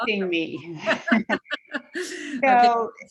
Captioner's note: both laugh